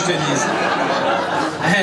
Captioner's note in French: rires public